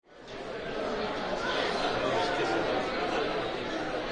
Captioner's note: indistinct chatter